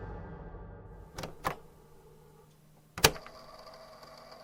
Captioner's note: click